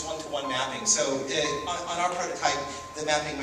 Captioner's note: steady dinging in the background while speaker is talking